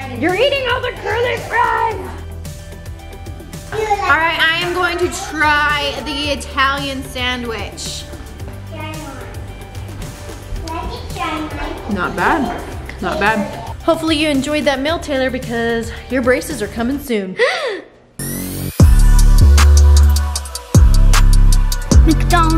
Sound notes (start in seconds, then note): 17.4 gasps; 18.2 hiphop music instrumental